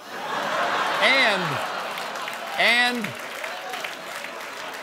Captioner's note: laughter; applause